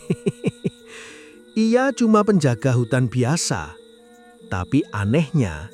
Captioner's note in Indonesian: tertawa